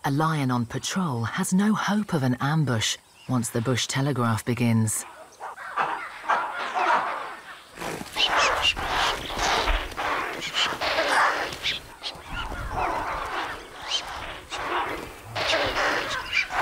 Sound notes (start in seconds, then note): 5.0 monkeys barking; 10.8 impalas whinnying; 14.7 animals barking